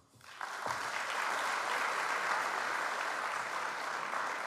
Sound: audience applauds

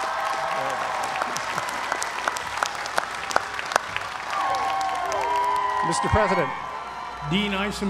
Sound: applause

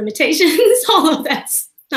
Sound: laughing

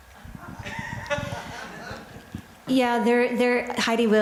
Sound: crowd laughter

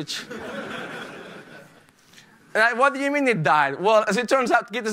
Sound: laughter

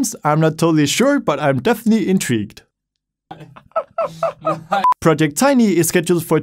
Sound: laughs

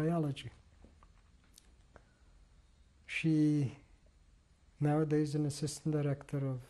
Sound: pauses for 3 seconds

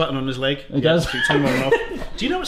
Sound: laughs

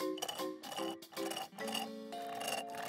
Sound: roots slurping; peaceful music

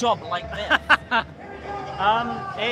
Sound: he laughs

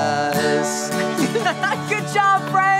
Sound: guitar strumming; Marty laughs

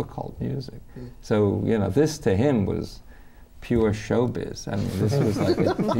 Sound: laughter

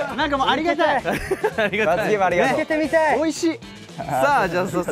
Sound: laughs

